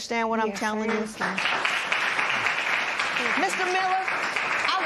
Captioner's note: applause